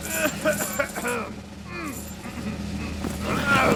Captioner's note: coughing